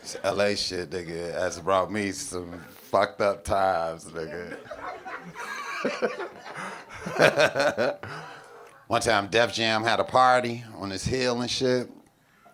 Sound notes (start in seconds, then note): 4.4 audience laughing; 5.8 laughing